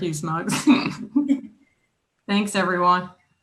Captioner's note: chuckles